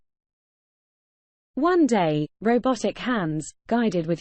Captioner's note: british female voice